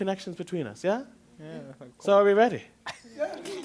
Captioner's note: chatter